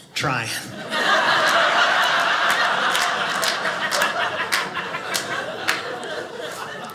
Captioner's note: audience laughing